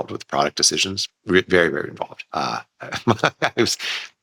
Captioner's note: laughs